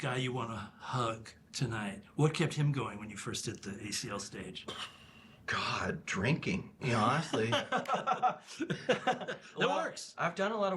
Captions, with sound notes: -What kept young Jim, the guy you want to hug tonight -- what kept him going when you first did the ACL stage? -[ Exhales sharply ] God. Drinking. You know, honestly. [ Both laugh ] -It works. -I've done a lot of work